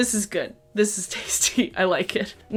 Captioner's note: laughs